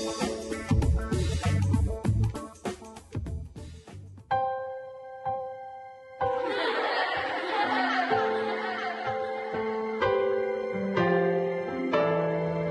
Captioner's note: children laughing